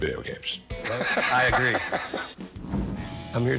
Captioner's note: laughs